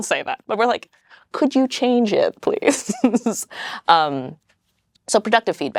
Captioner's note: laughs